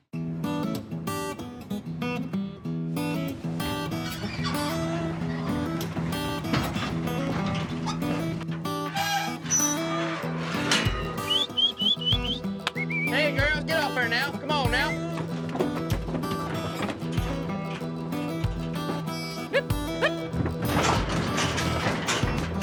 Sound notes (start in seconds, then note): 11.0 whistling; 14.6 hoof beats